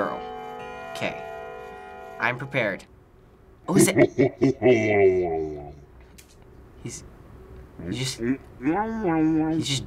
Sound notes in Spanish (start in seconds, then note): 3.7 Risa siniestra de profundidad